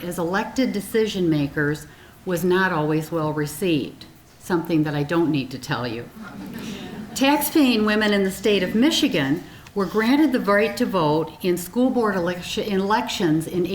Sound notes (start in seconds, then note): 6.2 audience chuckling